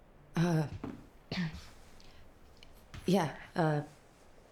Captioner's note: clears throat